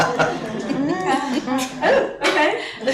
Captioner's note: laughter